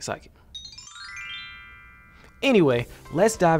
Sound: chime trills

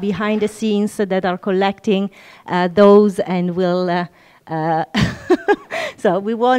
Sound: chuckles

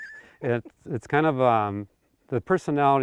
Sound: laughing

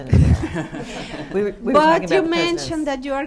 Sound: laughter

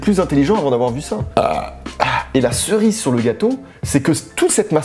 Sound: burps

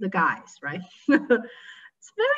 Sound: chuckles

